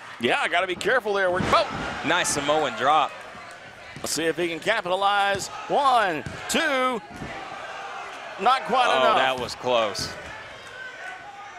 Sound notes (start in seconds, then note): 8.4 crowd murmuring